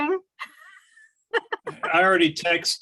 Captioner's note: laughing